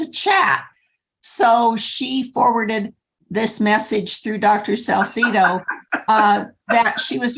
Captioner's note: laughter